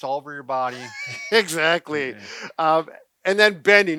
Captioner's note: laughing